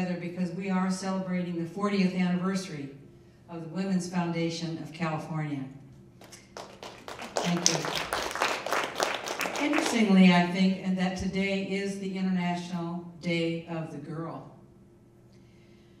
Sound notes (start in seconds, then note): 6.2 people applauding